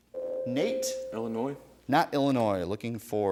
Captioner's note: ding